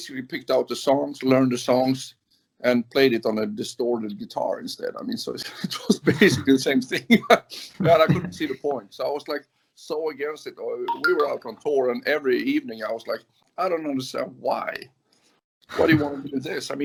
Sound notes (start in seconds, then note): 7.4 laughs